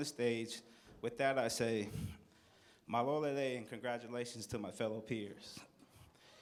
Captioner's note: non-english